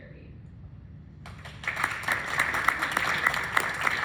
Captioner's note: clapping